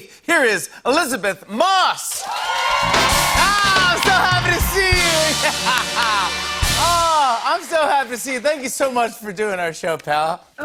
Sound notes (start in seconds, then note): 2.1 cheers and applause